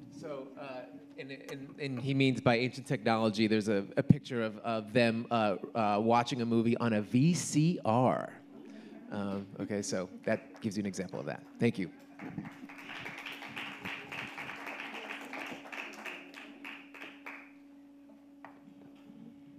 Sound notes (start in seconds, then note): 12.0 audience applauding